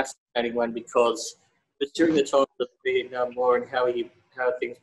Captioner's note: audio distorts